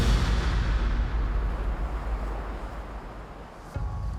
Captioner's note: water rushing